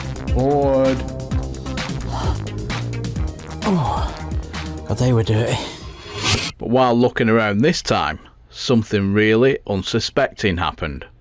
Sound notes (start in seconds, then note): 1.9 heavy Breathing